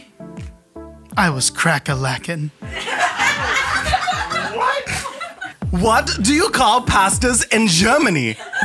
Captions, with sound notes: I was cracka-lackin'. - What? (laughing) - What do you call pastas in Germany?